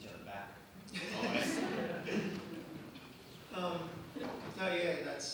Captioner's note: crowd laughs